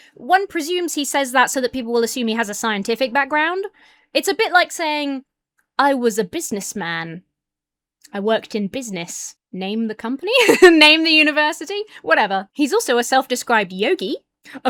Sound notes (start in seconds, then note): 10.3 laughs